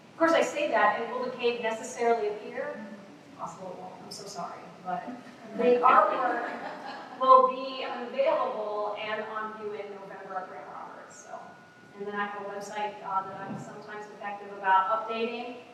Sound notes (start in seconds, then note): 6.1 laughter